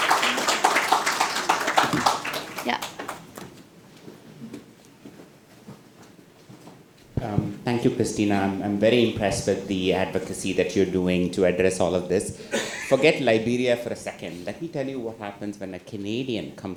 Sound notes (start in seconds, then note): 1.5 attendees applaud